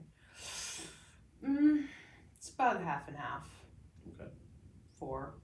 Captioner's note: inhales sharply